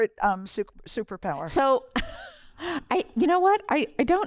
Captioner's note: laughter